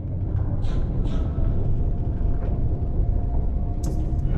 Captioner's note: subs rumbling